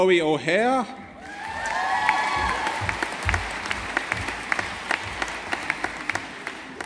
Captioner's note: audience applauding